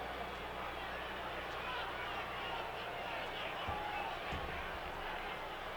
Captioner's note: audience chattering